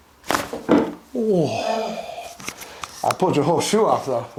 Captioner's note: leg cracks